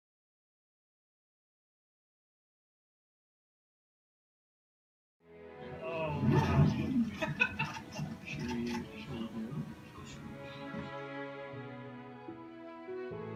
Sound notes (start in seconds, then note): 6.2 girl laughing; 10.2 slow gentle music